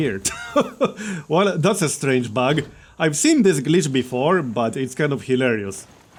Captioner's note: laughs